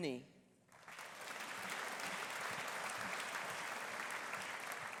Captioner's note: audience applauding